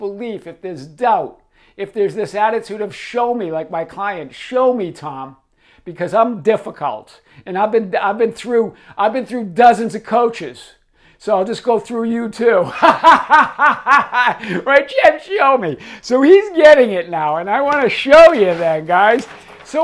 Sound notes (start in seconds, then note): 12.6 laughs